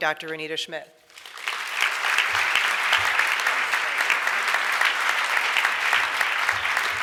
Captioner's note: audience applauds